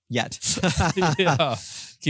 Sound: both laugh

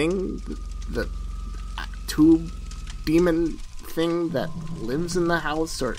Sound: stammers

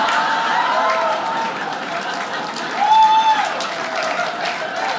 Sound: audience laughs

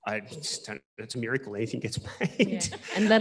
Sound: laughs

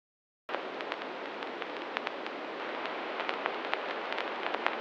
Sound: crackling

